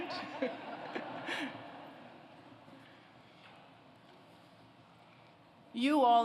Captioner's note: laughter